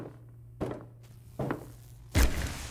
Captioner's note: footsteps